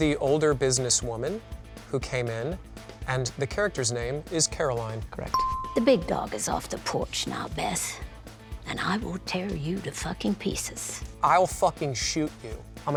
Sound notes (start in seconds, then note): 5.3 bell dinging